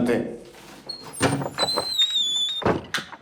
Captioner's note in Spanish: Ruido al abrir puerta